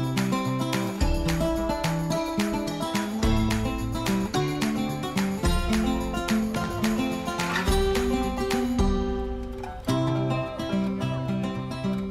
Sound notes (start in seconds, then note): 6.3 splash into water